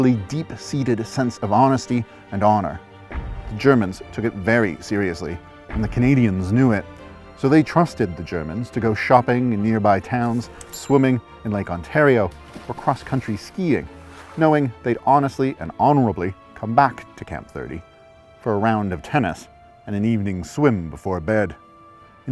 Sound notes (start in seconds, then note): 10.6 cash register dinging; 12.1 water splashing; 12.2 skis whooshing through snow